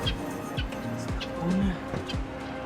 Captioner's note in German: auf Schweizerdeutsch